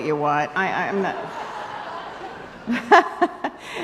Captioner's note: laughs